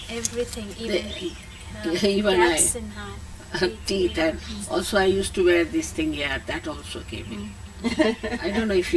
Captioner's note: laughter